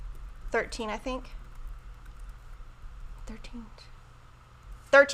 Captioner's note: whispers